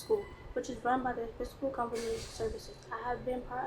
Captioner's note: speaks faintly